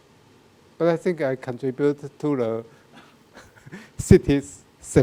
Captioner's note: laughs